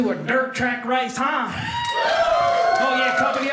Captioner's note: audience cheering